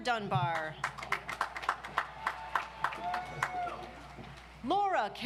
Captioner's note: audience applauds